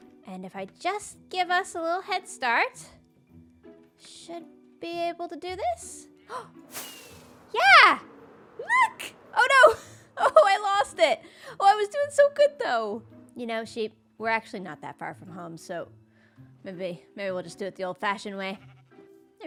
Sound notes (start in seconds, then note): 6.2 gasps